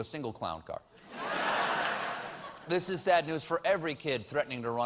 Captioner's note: laughter